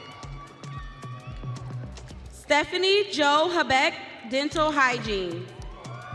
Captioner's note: audience cheering